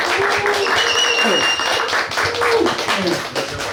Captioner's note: applause; whistling sound; applause